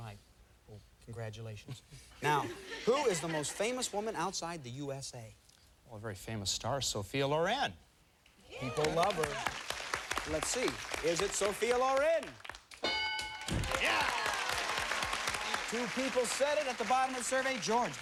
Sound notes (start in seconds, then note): 13.3 cheers and applause